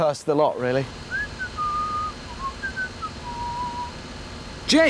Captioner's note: james whistling